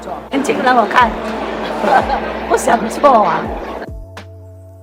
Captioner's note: laughs